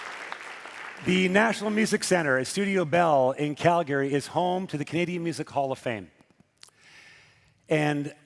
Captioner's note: cheering and Applause